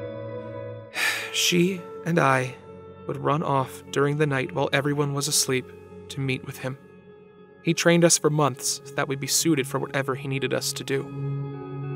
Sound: sigh

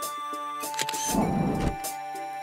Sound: SFX: Camera Shutter

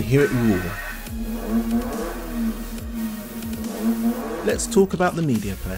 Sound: engine revving

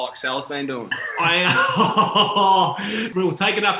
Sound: laughing

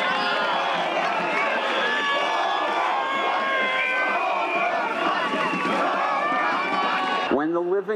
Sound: chanting

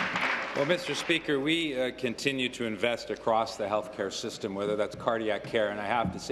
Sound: applause

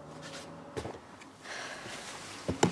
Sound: sighs

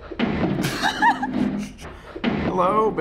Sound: laughs

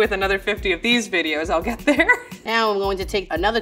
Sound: laughs

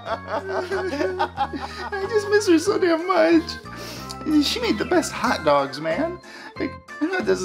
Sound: crying

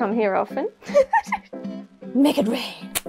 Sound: laugh

